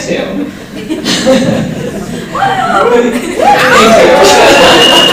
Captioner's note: cheering